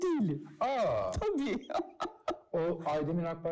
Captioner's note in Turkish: Gülüyor